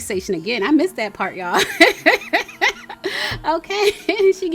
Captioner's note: laughing